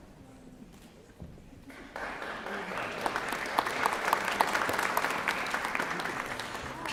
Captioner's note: applause